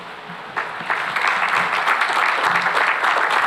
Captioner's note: applause